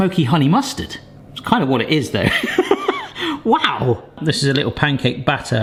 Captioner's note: laughs